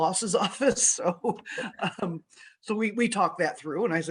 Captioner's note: laughs